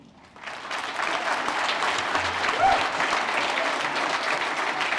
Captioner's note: applause